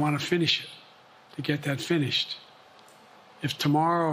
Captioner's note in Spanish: HABLA EN INGLéS